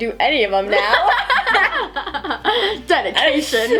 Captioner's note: laughing